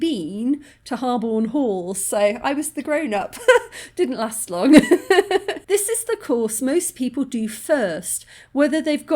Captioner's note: laughing